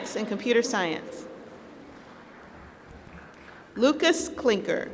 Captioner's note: applause